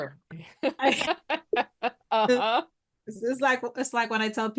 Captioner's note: laughs